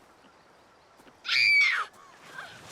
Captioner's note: shrieks